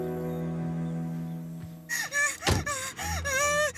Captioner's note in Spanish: Sollozos